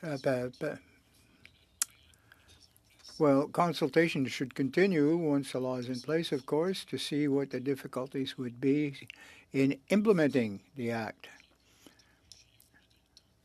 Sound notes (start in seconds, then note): 1.8 speaking French